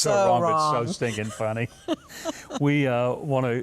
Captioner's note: laughs